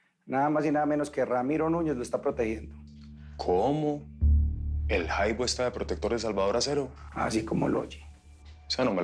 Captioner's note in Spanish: none